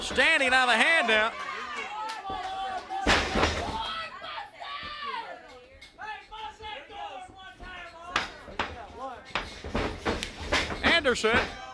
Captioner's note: crowd chatter